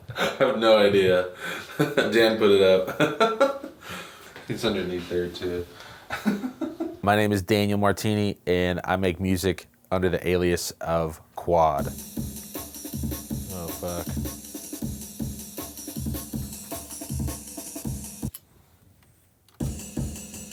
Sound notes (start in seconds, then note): 2.8 laughter; 6.1 laughter